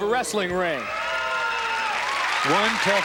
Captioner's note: cheering